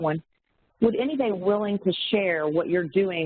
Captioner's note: audio warps